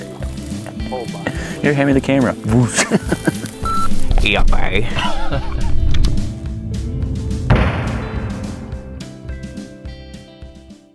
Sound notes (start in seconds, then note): 4.5 mumbles